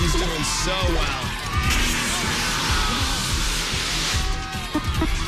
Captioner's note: alarm sounds